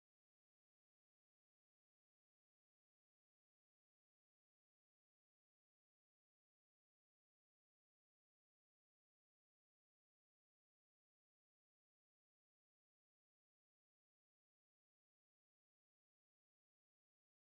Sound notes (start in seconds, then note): none